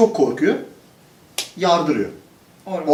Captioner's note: slap